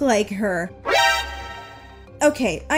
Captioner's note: Metal Gear alert sound effect